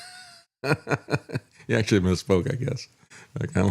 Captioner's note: laughs